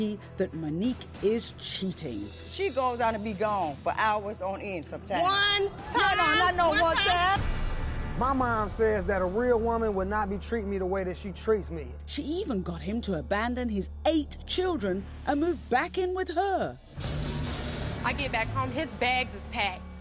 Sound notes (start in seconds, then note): 16.9 dramatic accent